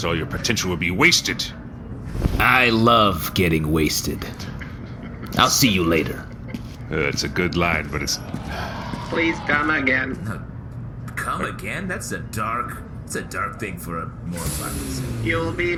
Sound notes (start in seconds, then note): 8.3 sighs